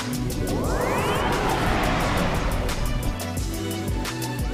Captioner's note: logo whooshes